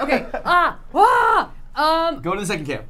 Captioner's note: screams